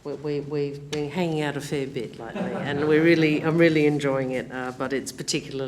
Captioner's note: laughter